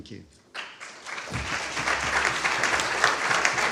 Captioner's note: applause